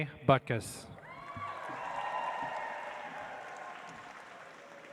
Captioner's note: audience applauds